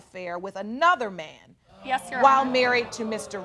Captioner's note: audience exclaiming